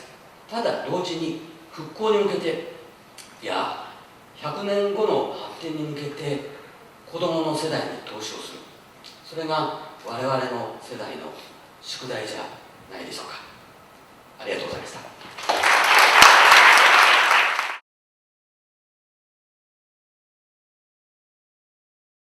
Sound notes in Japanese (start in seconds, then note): 15.2 拍手